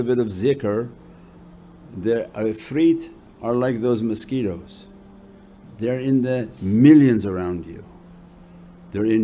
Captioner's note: reciting